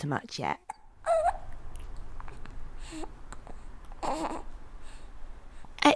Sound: baby noises

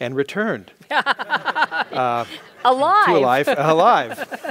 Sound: laugh

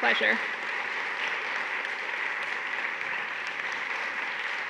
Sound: audience clapping

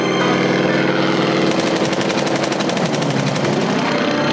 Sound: machine gun firing

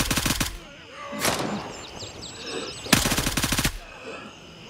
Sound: gunfire; gunshot

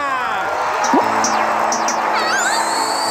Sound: applause

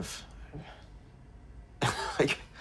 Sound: laughing

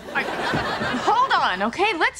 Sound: audience laughing

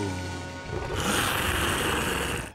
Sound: growling

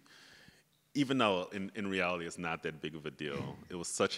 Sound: chuckles

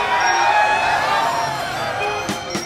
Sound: crowd cheers

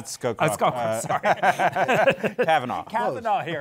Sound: laughter

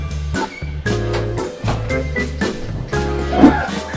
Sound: door shuts

